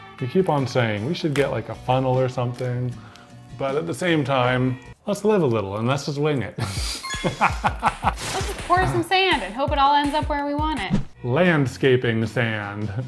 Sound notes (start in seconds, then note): 7.2 laughs